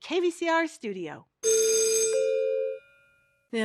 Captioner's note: school bell rings